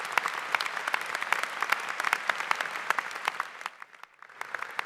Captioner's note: applause